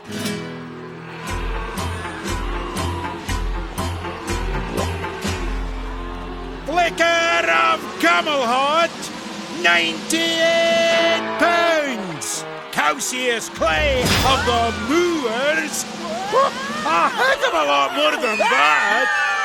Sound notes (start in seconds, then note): 5.5 gulping